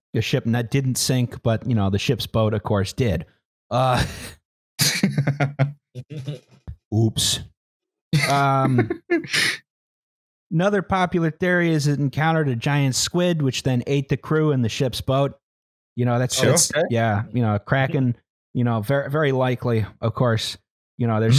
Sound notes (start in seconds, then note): 4.8 chuckles; 8.1 laughs